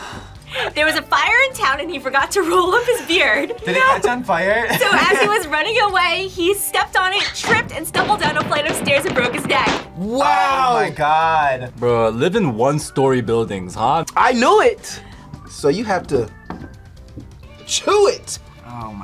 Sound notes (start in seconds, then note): 4.6 laughs